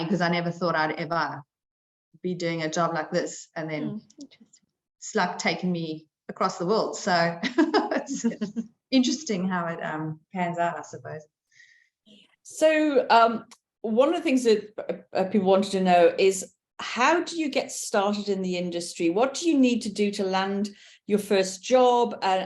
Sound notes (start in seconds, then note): 7.5 chuckling